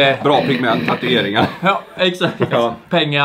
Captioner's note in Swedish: skratt